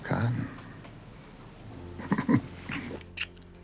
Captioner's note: chuckles